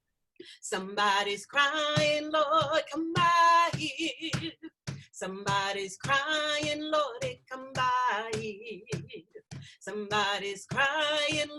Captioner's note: starts clapping on the beat